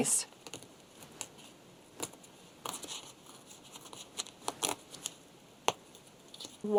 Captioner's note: very satisfying paper tearing